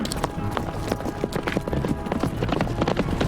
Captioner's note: horse whinnies; wagon moving